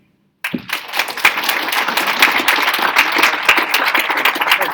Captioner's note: audience applauding